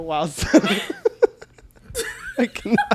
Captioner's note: both laugh